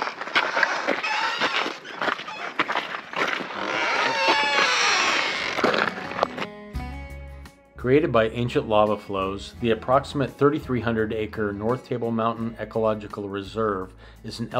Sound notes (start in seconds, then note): 0.8 gate slams shut; 0.8 gate squeaks